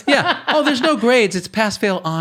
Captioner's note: laughs